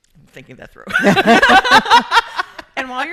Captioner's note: laughing